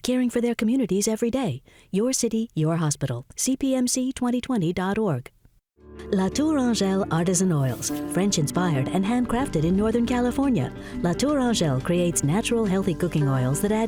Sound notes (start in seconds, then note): 6.5 fast Female Voice